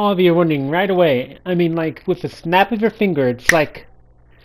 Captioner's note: finger snaps